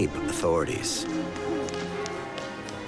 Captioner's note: church bells ringing